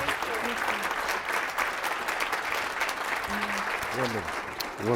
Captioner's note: applause